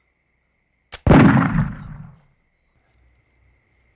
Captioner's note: gun shot